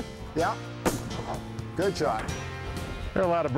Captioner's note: bang!